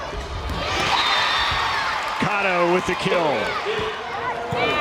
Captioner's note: crowd and players cheering